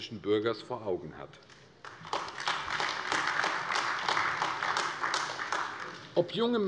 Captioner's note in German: Beifall AfD